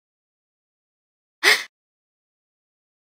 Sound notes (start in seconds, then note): 1.4 sound of monster sneeze